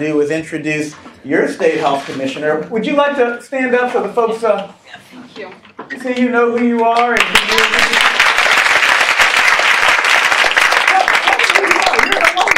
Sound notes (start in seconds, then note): 9.1 clapping